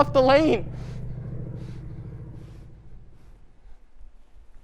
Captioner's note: airplane engine fades as it flies away